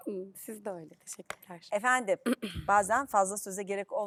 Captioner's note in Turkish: boğazını temizler